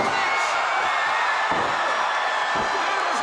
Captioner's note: crowd cheering